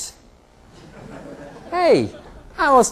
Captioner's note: laughter